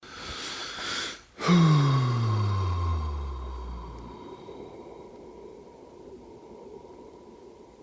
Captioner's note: takes a deep breath